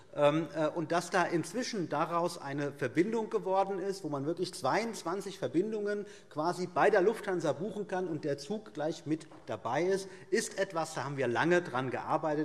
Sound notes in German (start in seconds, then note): none